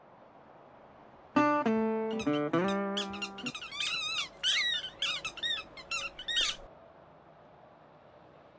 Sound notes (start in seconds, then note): 2.1 Rat King squeaking